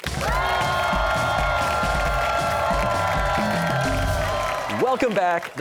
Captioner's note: cheers and applause